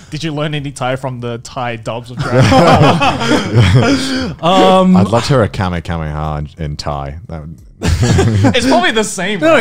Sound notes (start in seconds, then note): 2.2 laughing loudly; 7.9 laughing softly